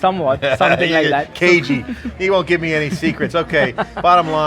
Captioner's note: laughs